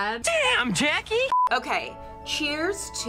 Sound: short beep

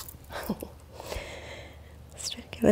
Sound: chuckles

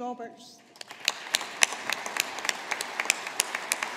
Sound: audience applauding

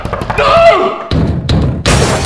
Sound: loud door knocking sound; door bursts open

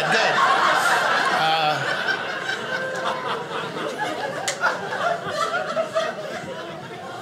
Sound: audience laughing

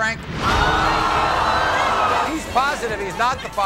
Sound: audience screams

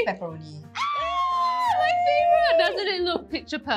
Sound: screaammmmms

